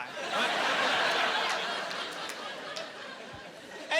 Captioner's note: laughing